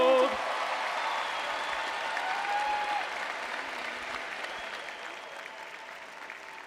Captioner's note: crowd cheering